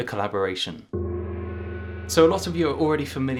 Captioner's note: soft gong